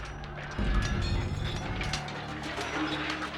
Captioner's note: shields clattering